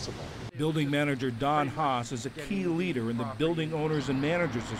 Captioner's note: voice-over